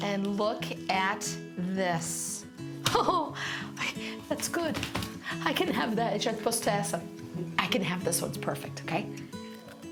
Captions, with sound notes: And look at this. (laughing) Looks good. I can have that. I can have this one, it's perfect, okay?